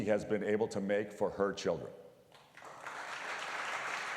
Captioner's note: applause